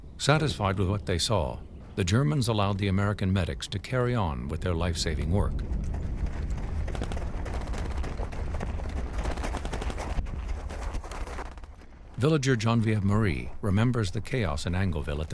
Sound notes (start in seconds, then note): 5.4 footsteps thumping